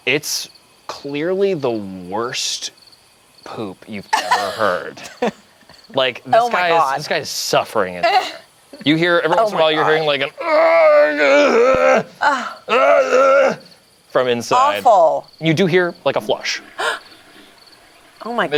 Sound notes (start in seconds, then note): 4.1 group laughs; 9.5 groans; 16.7 gasps